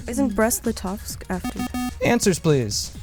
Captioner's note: bell